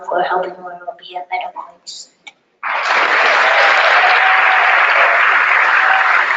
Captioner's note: audience applauding